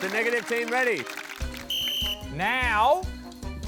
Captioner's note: blows whistle